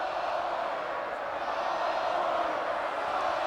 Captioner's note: crowd chants